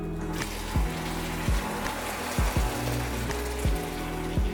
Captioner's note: mixture sizzling